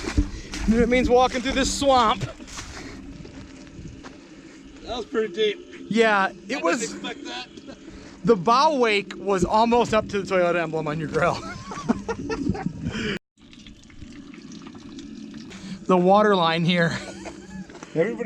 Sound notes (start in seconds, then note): 11.4 laughing; 13.4 water dripping